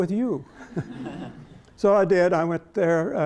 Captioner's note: laughter